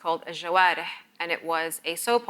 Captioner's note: speaks in a foreign language